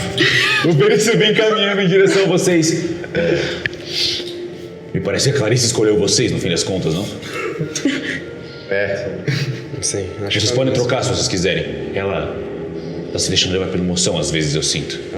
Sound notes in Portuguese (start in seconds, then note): 2.8 risos; 9.2 risos